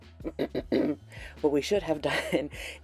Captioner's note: accusatory throat clearing